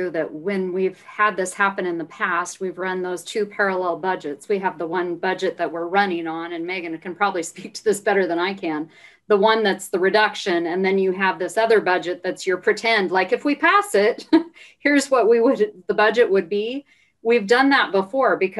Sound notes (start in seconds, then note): 14.1 laughing